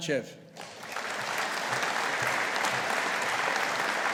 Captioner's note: audience applauding